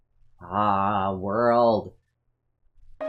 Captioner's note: sounding impressed